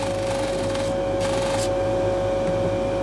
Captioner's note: motor whirring